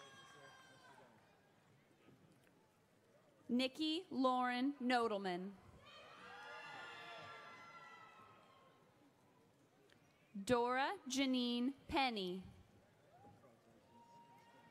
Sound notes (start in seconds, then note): 6.2 audience cheers